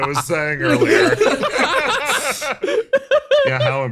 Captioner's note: laughs